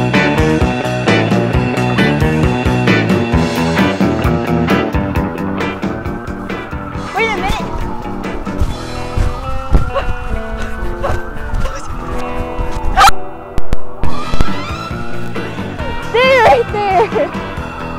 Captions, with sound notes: Wait a minute! [fast running noises] [mic cuts out] Stay right there!